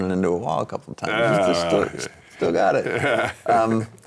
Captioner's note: laughing